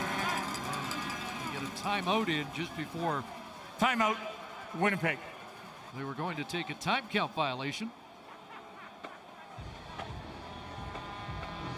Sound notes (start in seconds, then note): 2.9 crowd din